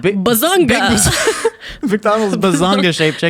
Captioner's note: both laughing